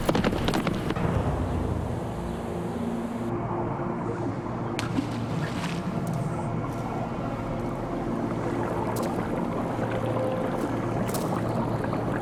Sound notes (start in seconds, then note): 1.7 wind blowing; 4.8 splash; 7.2 water bubbling; 9.9 beads rattling